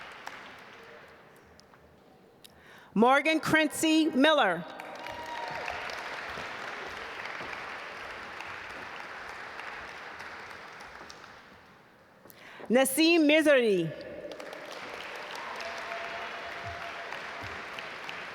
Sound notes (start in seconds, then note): 4.7 audience applaud; 14.0 audience applaud